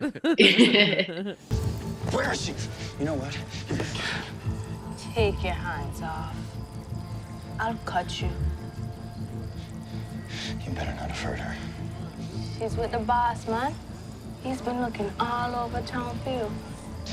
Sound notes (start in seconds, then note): 1.5 dramatic music; 3.4 gasps; 9.0 rapid breathing